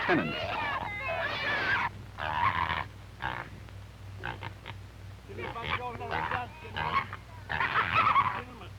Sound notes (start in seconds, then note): 0.0 pigs squealing; 2.1 pigs grunting; 7.6 giggling